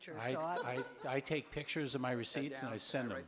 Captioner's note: audience laughing